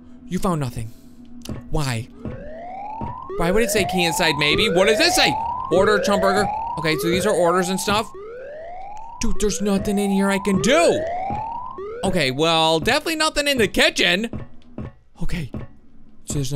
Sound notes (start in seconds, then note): 2.7 alarm sounds